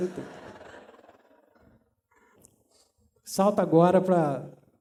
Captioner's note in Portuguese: risos